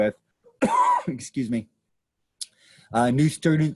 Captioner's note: coughs